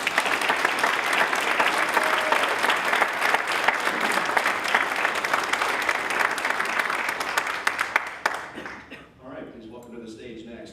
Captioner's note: applause